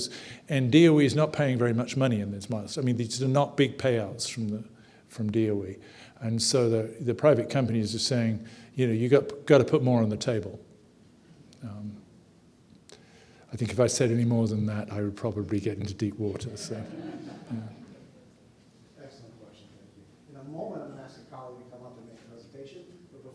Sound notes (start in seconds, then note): 16.4 audience laughing